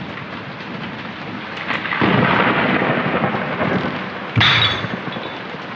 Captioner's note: rain and thunder; loud thunderclap; glass shatters